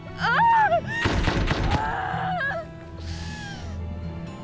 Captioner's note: woman yells